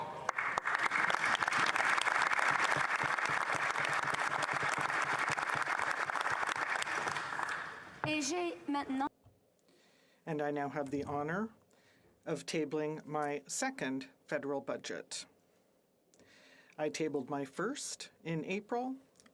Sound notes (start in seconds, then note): 4.9 applause